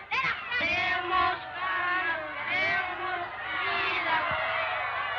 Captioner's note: boys chanting slogans in Spanish